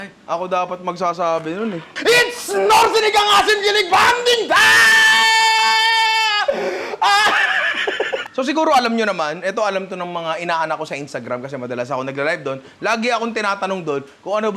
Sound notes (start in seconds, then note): 5.4 laughs